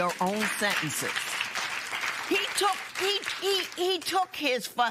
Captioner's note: applause